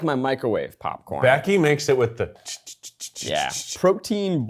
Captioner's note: chittering